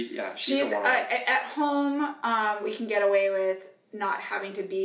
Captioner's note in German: none